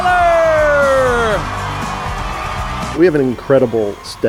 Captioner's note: audience cheering